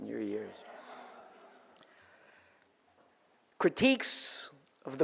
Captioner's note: audience laughs